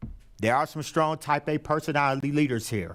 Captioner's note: none